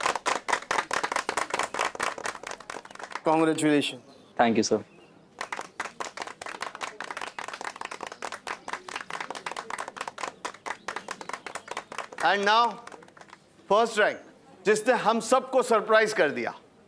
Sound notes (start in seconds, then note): 5.3 clapping